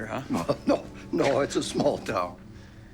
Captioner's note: laughs